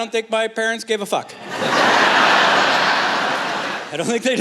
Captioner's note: laughter